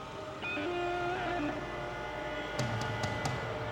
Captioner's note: engine humming